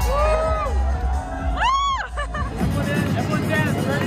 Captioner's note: crowd cheering; upbeat music